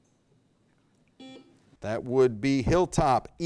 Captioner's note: buzzer beep